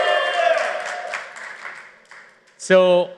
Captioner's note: applause